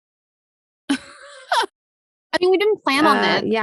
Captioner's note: laughing